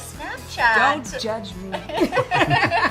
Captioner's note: laughing